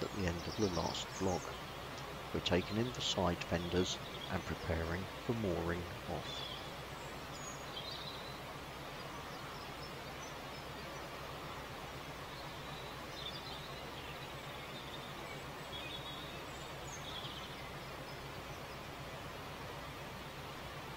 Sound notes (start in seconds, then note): 7.9 bird's still tweeting and Chirping